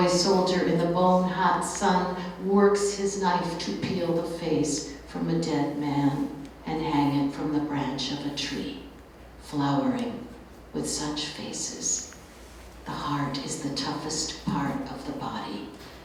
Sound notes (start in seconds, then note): none